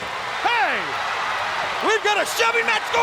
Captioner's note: audience cheers